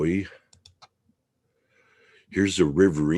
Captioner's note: mouse clicking